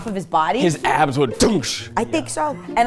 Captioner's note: imitates inflation